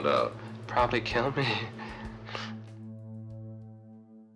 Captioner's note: laughs